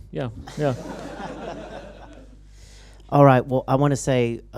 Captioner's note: laughter